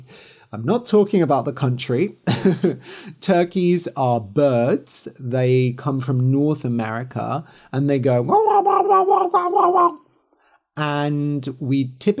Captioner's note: gobble gobble